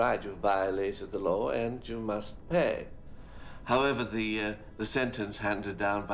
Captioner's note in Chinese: none